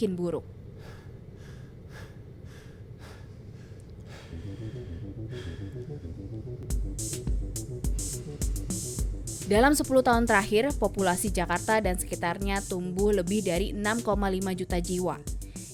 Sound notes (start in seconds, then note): 0.7 shortness of breath; 6.6 intense music